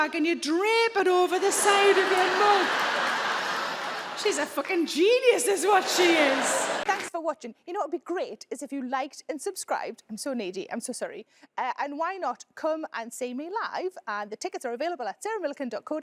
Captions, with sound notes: "and you drape it over the side of your mug." (audience laugh) She's a f*cking genius is what she is.